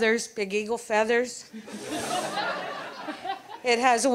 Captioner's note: audience laughs